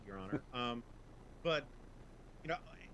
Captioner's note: laughs